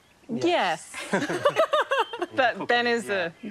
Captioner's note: all laugh